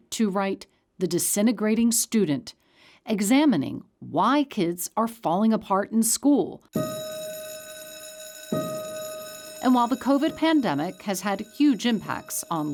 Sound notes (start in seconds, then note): 6.7 bell ringing